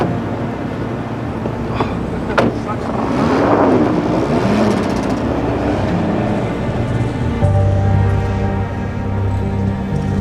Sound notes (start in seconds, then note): 4.1 engine rumbling; 8.0 tense music